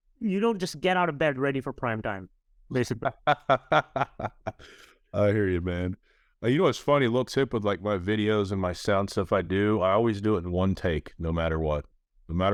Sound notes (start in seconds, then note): 2.8 laughs